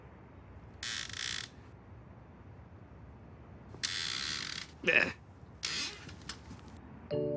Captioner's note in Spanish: Crujidos de la puerta